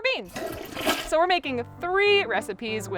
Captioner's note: toilet flushing